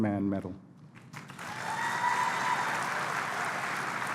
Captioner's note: applause